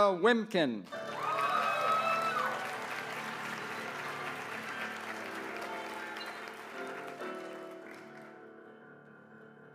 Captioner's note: applause